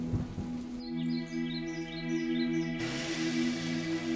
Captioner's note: birds chirping